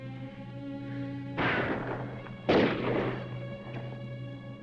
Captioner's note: guns firing; dramatic music